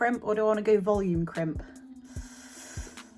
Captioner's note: sighs